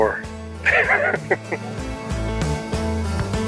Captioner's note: laughing; upbeat music